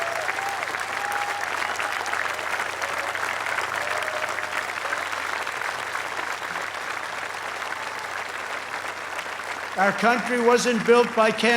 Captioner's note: applause